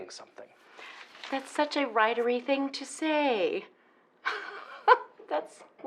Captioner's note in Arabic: يضحك